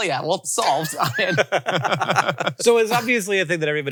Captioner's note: all laughing